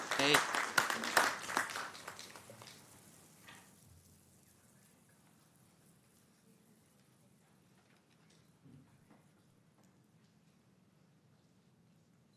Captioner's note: applause